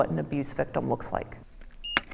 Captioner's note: machine beeping